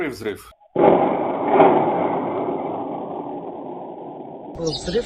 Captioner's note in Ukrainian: звук вибуху